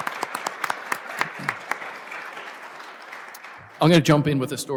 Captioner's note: applause